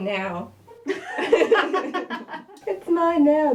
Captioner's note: laughter